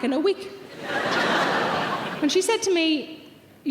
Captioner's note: audience laughing